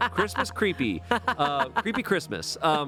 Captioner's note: laughing